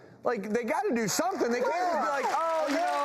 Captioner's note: audience claps